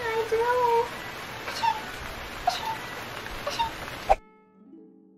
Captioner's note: unrealistic cute sneezing